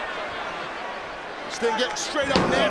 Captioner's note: audience chattering